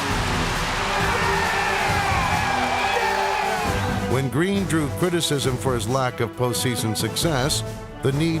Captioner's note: cheers and applause